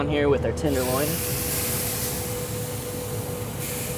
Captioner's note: sizzling